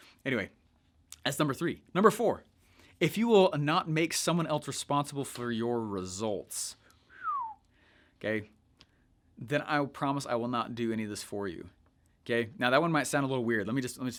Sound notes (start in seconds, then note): 7.1 whistles